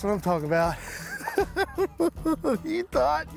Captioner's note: chuckles